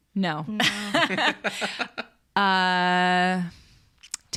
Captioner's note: all laugh